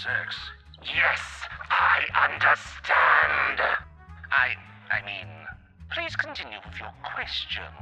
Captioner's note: demonic voice